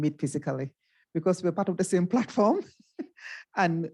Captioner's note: chuckles